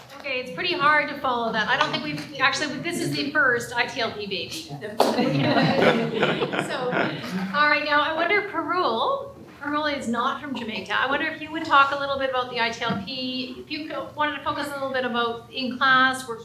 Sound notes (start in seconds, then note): 5.1 laughter